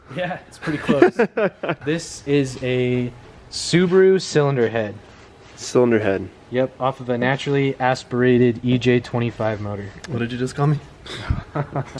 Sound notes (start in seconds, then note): 1.3 laughs; 11.1 laughs